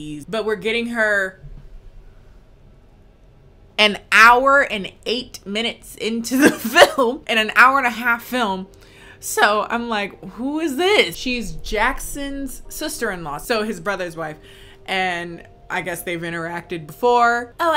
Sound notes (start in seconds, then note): 6.8 laughs